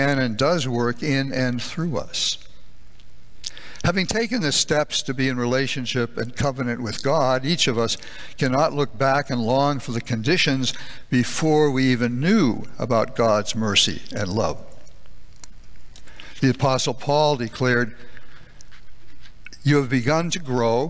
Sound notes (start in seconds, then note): none